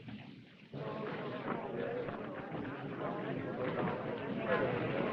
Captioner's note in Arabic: ثرثرة الحشد